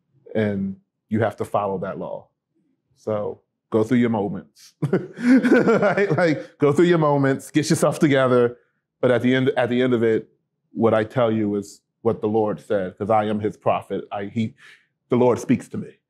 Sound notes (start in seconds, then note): 4.8 laughter